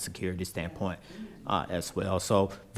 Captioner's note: speaking quietly